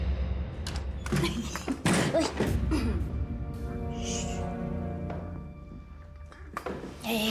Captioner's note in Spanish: sonido al abrir la puerta